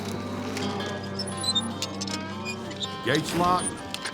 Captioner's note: gate squeaking